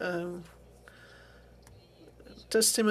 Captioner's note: speaking French